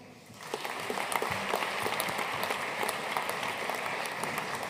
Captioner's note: audience applauding